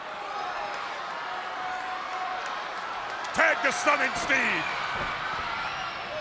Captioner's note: applause